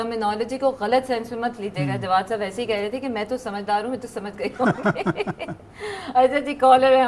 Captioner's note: chuckles